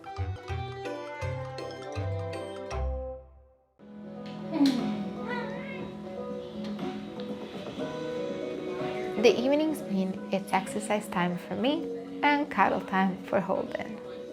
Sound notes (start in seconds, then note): 0.1 joyful music fades; 3.8 soft music; 4.4 Holden meows